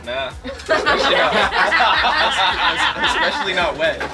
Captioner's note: all laughing